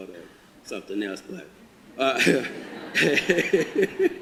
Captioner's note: audience laughter